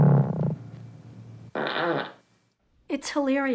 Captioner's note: garbled distorted noise; farts